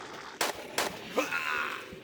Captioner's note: bam bam